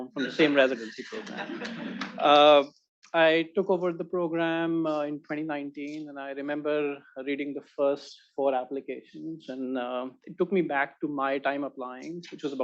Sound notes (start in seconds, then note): 1.6 attendees laughing